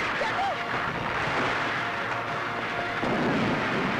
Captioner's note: Explosion